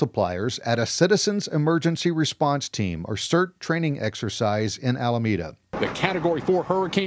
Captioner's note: TV Broacast